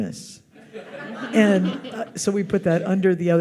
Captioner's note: audience laughs